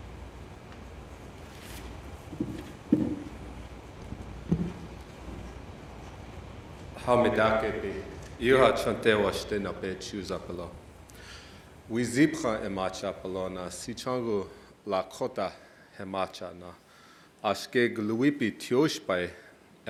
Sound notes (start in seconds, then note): 6.1 speaking Indigenous language